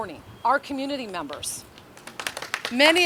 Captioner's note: audience applauding